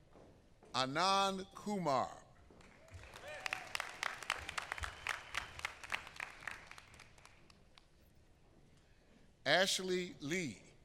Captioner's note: applause